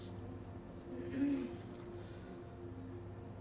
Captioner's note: clears throat